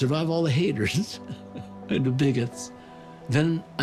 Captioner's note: chuckles